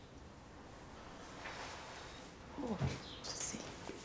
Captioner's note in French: soupir